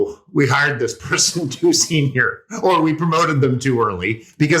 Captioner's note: laugh